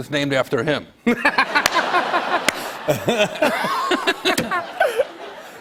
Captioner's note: laughter